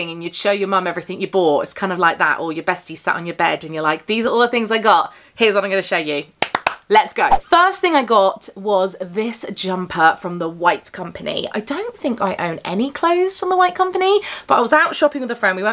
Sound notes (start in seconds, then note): 6.4 hand's clap